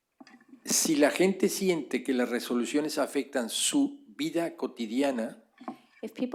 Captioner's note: speaking spanish